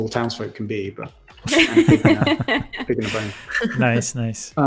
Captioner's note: laughter